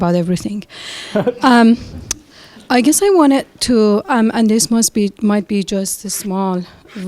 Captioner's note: laugh